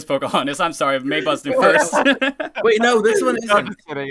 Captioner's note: laughter